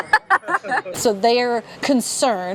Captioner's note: silly giggles